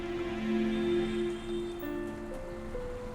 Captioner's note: horns beeping